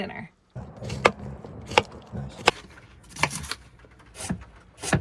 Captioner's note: vegetables crunching